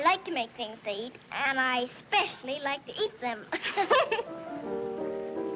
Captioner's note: chuckling; piano intro playing